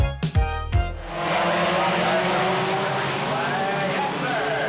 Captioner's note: engines whine